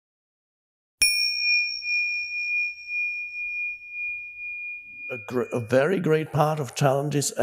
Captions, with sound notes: (bell rings) - A very great part of challenges